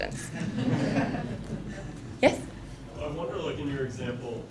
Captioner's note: laugh